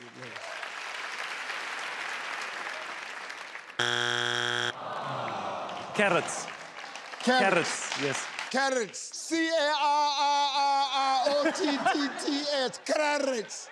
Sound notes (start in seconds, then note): 0.0 clapping; 3.8 beep